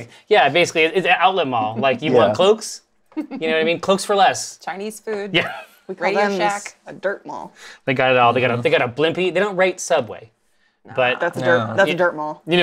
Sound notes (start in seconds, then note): 8.0 stammers